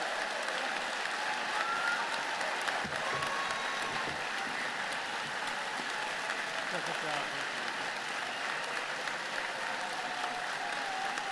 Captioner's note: cheers and applause